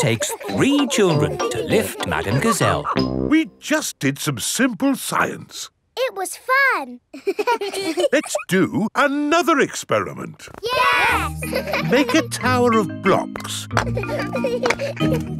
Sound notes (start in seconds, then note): 7.1 children laughing; 10.7 laughing; 13.6 children laughing